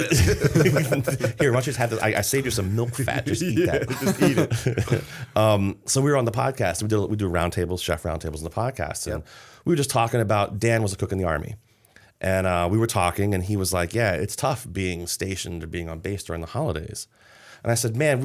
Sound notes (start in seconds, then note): 3.0 laughter